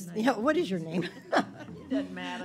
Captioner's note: laughing